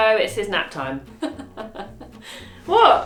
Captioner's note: laughs